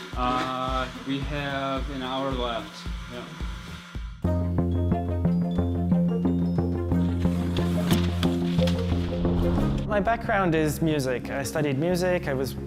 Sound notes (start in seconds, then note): 3.4 electronic music; 7.1 cutting